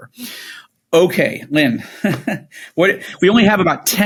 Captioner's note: chuckles